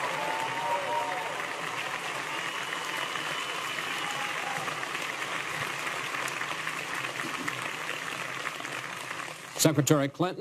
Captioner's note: applause